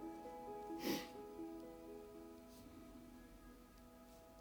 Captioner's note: person sniffs